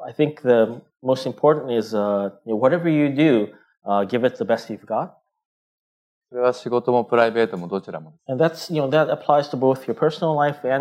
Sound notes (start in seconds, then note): 7.2 speaking japanese